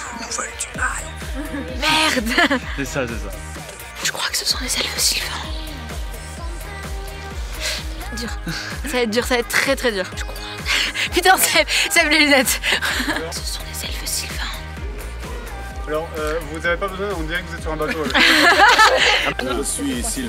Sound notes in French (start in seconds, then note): 0.9 chuchotant; 1.3 rires; 4.2 chuchotant; 10.2 chuchotant; 17.8 rires